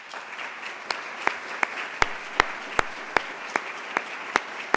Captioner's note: applause